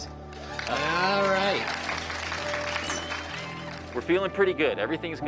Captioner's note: applause